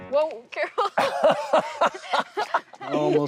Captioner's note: laughter